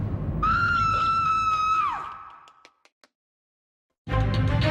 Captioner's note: dramatic music; lady screaming loudly; tense music